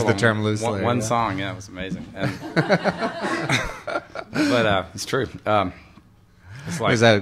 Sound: laughter

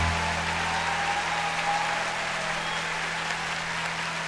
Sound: cheers and applause

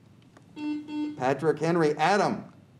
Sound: buzzer beeps

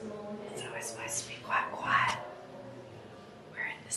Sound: whispering

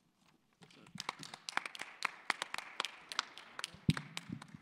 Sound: applause

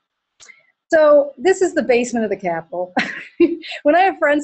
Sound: laughter

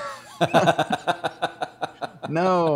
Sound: laughing

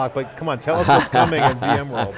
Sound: Pat laughing

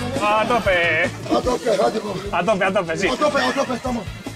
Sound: in spanish

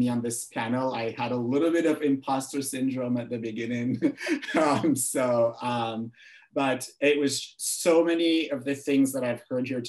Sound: laughs

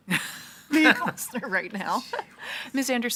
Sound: laughs

